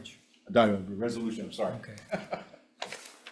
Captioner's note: chuckles